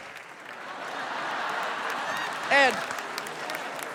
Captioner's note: laughter